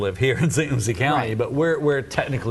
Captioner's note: laughs